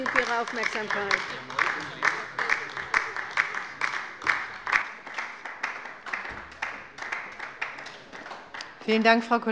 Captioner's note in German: Beifall bei der LINKEN